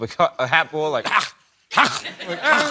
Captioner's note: coughing